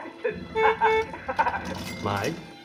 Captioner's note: laughs nervously; car honks